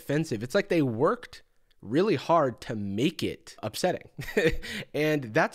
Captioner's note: chuckles